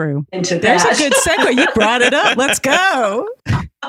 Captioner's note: laughing